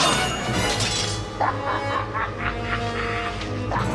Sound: <i> sinister laughter</i>

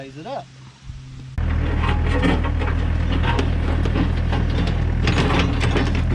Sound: excavator loosening soil

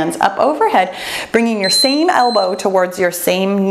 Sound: timer beeps

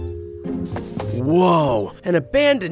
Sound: footsteps tapping

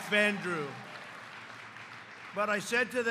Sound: applause

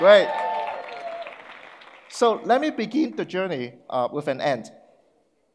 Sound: audience cheers

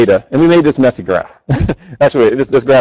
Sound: chuckles

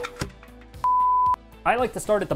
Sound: beep

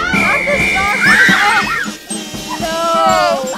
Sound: girls screaming; whistle blows; screaming; lively band music

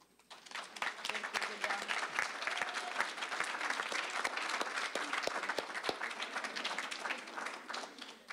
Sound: applause

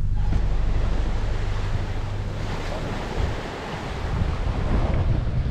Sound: waves ebbing and flowing; wind blowing

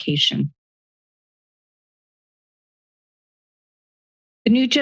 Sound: silence

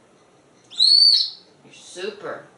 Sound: whistle

